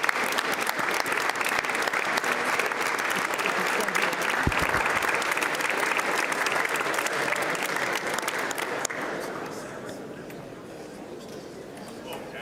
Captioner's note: applause